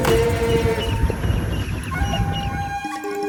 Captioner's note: bright vocal music continues; birds chirping happily